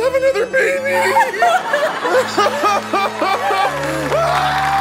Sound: both crying; audience applause

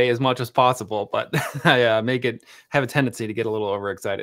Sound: chuckles

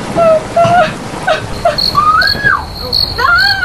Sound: screaming; crying; screaming

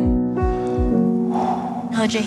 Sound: breathes deeply

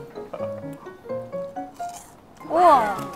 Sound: chomp

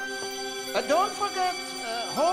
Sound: bell ringing

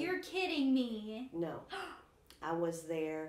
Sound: gasping

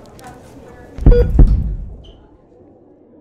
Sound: sound of heart beat

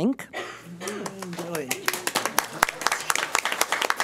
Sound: applause

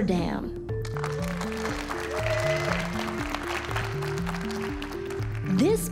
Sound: audience applauding and cheering

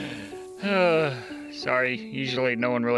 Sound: sighs in defeat

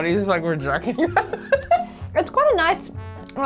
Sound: laughs

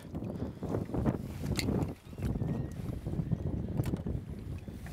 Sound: wind blowing

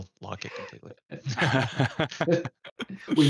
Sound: laughter

